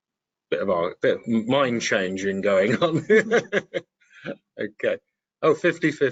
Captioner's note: laughing